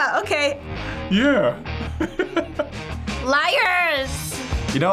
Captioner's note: laughs